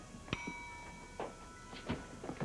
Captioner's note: timer dings